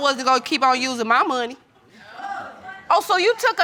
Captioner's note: audience exclaims